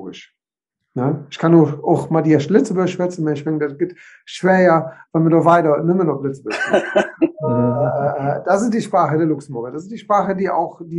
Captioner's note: says something in Luxembourgish